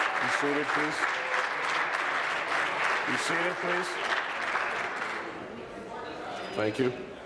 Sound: applause

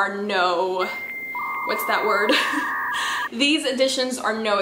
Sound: computer fail sounds

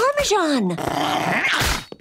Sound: growling, biting; gasping

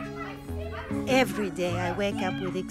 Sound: children shouting

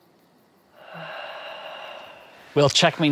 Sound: long sigh

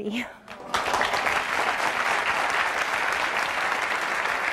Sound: audience applauding

